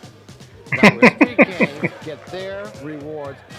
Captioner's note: laughing